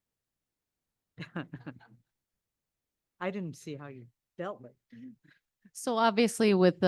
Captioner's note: laughs